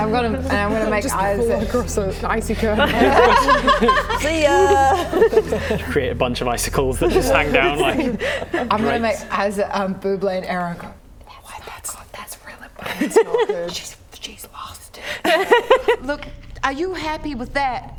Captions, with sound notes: And I'm gonna make eyes- Just pull across an icy curtain now *laughing* See ya! You create a bunch of icicles that just hang down like I'm gonna make eyes at Bubble and Arrow That's really bad It's not good She's lost it *laughing* Look, are you happy with that?